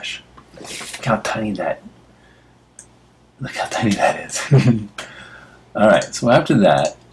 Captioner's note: laugh